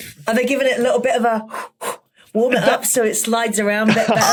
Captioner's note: huffs